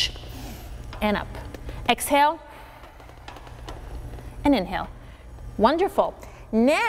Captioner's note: exhales sharply; blowing air